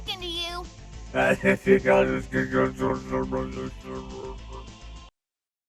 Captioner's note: wonky dying robot noises